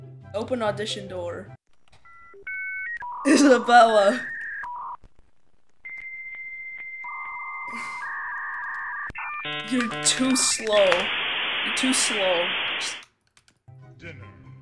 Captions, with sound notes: open audition door *DIAL UP NOISE* Isabella *DIAL UP NOISE* *DIAL UP NOISE* you're too slow *DIAL UP NOISE* *DIAL UP NOISE* you're too slow *DIAL UP NOISE*